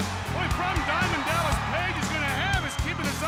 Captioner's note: crowd cheering